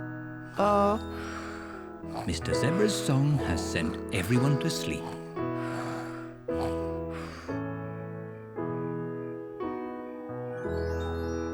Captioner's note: all snore